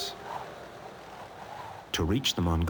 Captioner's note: wind whooshing